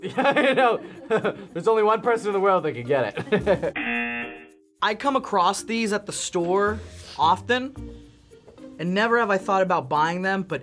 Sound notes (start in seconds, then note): 0.0 laughs; 3.7 buzzer